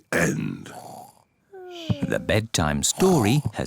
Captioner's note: both snore